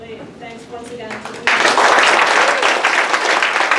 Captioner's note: applause